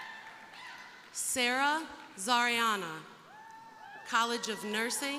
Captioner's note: crowd cheering; crowd cheering